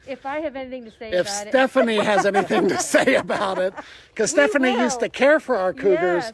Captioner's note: laughter